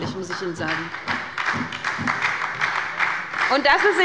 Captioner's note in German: Beifall bei der SPD